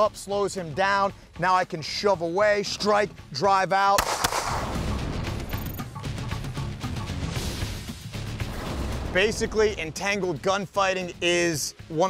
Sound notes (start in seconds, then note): 3.9 gunshots; 4.8 exciting music